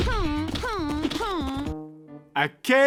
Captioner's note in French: gémissement